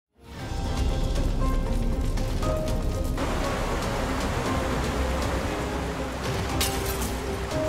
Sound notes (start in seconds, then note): 0.2 dramatic music; 0.5 fire roaring; 2.1 water rushing